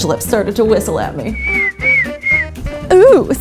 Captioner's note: whistle